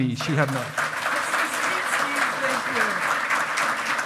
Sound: loud clapping

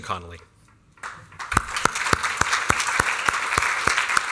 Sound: applause

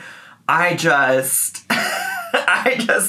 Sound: laughs

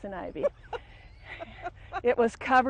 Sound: laughing

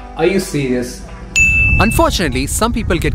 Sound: bright dinging

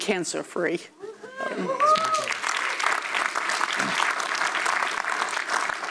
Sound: audience cheers and applauds

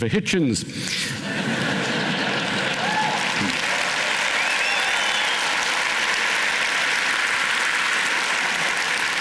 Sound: laughter, applause, cheering

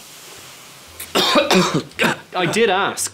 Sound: coughing

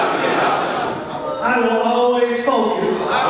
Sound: audience speaking

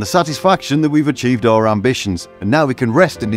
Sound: none

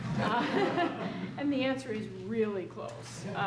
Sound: audience chuckles

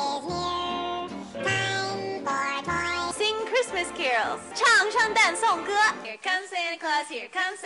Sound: speaks in Mandarin

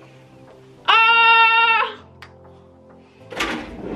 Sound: yelling

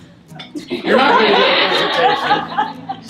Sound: laughing

